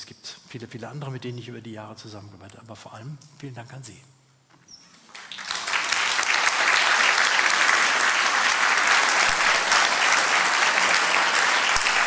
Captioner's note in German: applaus